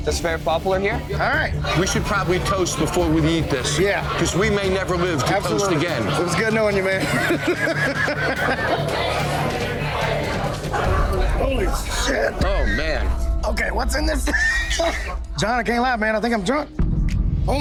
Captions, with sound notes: that's very popular here. - All right, we should probably toast before we eat this. - Yeah. - 'Cause we may never live - Absolutely. - to toast again. - It was good knowing you, man. (laughs) (customers chattering) Holy shit. - Oh, man. - Okay, what's in this? (wheezes) Jon, I can't lie, man, I think I'm drunk.